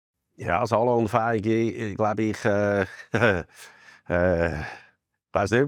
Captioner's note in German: lacht